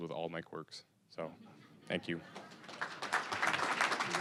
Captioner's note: audience laughing; applause